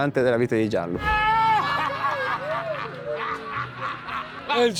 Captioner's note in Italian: urla incontrollabili